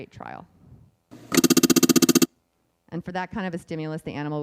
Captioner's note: beeping